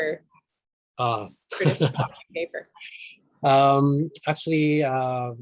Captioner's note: both chuckle